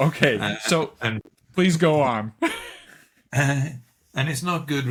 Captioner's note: laughing; laughing